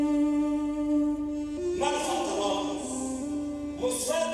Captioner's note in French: Arab spoken audio